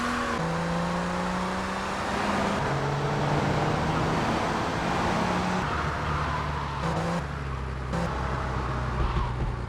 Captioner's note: sirens wailing